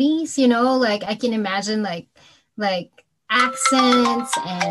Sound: phone rings

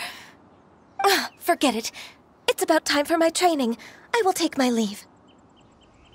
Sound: sigh

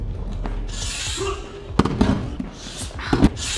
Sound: shouts

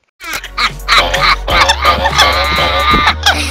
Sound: both laughing

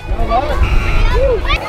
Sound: buzzer

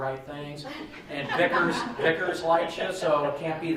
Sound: laughing

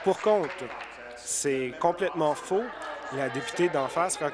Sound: applause

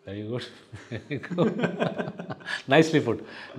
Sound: both laughing

